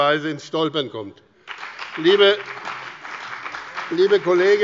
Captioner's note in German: Beifall bei der CDU und dem BÜNDNIS 90/DIE GRÜNEN